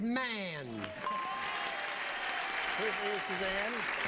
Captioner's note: audience applauding